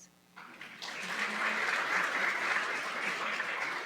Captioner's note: applause